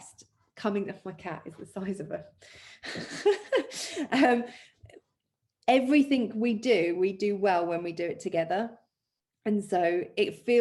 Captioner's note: laughs